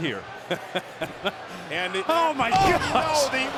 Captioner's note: laugh